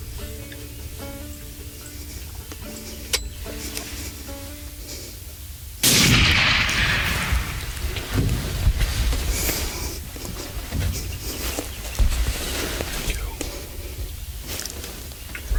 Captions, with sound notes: (safety clicks) (rifle blasts) (whispering) Where'd he go?